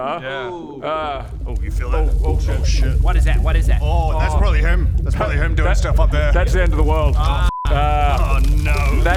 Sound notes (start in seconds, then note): 1.3 rumble